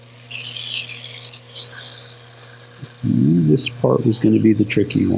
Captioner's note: polisher grinding